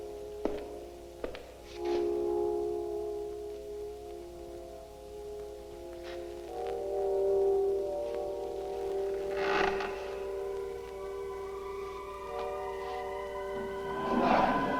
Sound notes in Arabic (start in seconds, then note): 8.1 موسيقى هادئة; 9.0 صرير الكرسي